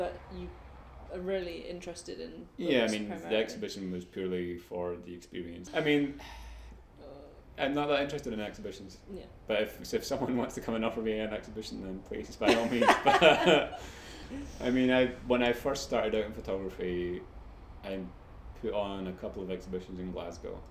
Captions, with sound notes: you are really interested in books primarily? D - Yeah I mean, the exhibition was purely for the experience I mean, I'm not that interested in exhibitions. C - Yeah. D - But if someone wants to come and offer me an exhibition, then please, by all means. (both laugh) I mean when I first started out in photography I put on a couple of exhibitions in Glasgow,